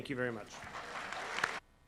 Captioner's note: applause